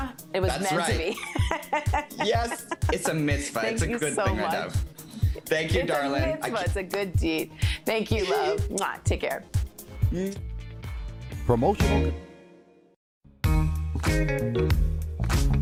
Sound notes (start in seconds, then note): 6.9 speaking foreign language